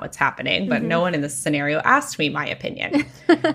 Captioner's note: laughs